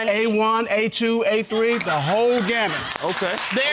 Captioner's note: audience laughs